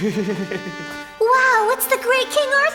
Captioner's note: Mordred chuckles nervously